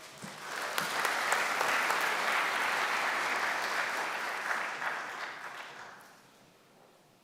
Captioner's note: applause